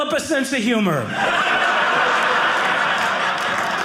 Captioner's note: audience laughing